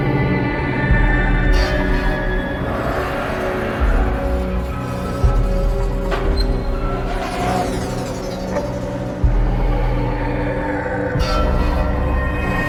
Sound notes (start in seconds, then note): none